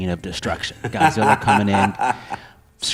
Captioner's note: laughter